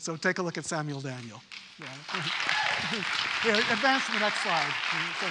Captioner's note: audience: applause